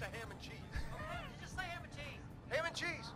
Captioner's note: laughing